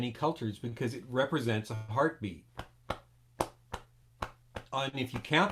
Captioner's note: beating on chest